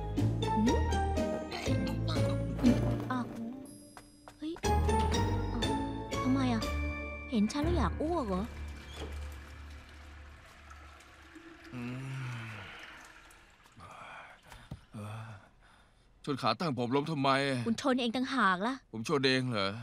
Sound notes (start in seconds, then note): 7.7 toilet flushing